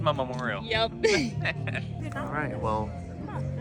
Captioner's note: both laughing